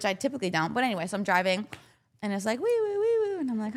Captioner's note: imitating siren